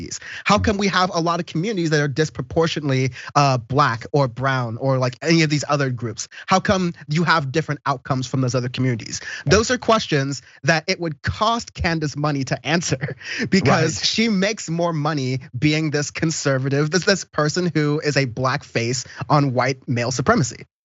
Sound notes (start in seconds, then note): 13.4 laugh